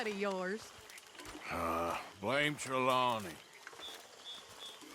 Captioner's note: grunts